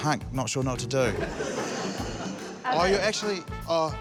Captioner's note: both laugh